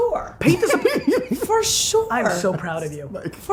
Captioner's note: laughing